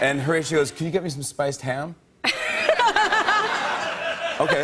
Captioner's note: laughter